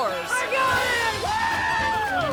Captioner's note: crowd cheering